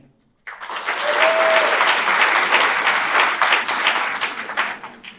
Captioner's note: audience applauds